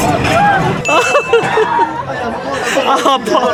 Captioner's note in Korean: 으흑흑흑흑